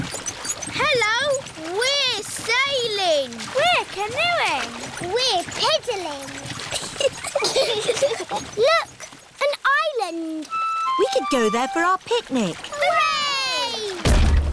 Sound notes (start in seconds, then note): 6.6 both giggle; 13.4 peppa and george cheer